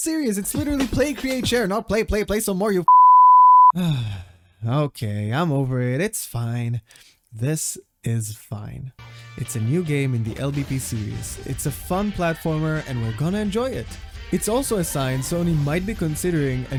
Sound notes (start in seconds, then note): 3.7 long sigh